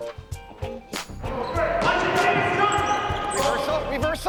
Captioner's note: game hubbub